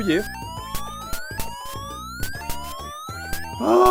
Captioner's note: sound of repetitive alarm